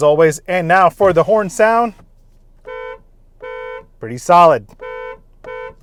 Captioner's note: car horn sound